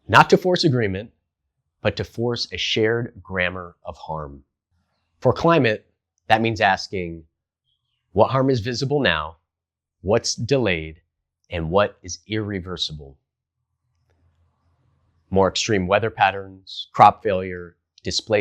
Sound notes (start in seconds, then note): 5.1 beat